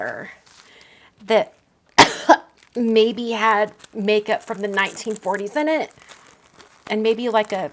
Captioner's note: coughs